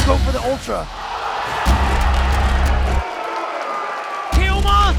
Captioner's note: crowd cheering